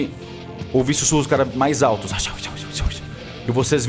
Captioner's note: whispers